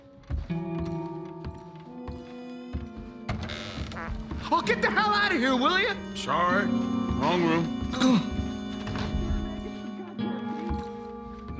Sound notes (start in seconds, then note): 3.7 fart